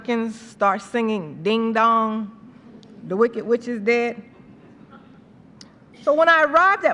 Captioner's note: laughter